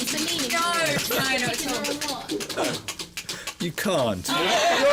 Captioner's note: wheel spinning